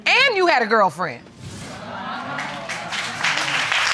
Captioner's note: audience exclaims. applauds